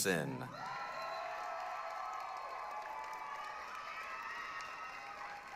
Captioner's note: applause, cheering